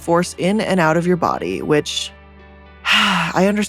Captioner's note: sighs